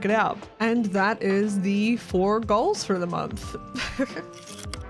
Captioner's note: chuckle